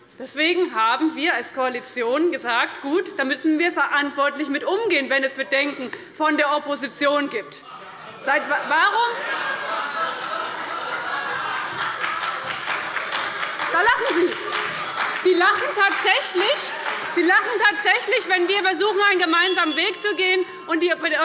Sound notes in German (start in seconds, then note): 8.7 Beifall bei dem BÜNDNIS 90/DIE GRÜNEN und der CDU - Lachen bei der SPD